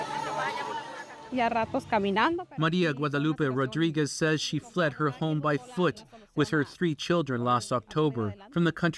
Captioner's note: speaking alternate language